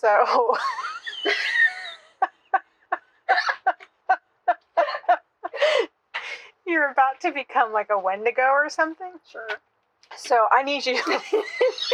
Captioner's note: both belly laughing; erupting in laughter